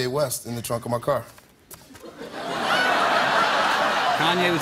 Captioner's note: laughter